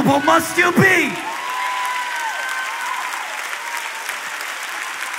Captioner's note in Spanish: Aplausos